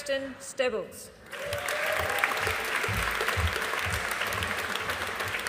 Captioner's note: audience applauding